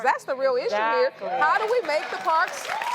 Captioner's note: audience cheers